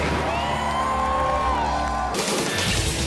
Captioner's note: spectators cheering; graphic whooshing; lively upbeat music